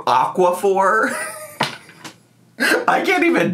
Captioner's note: laughs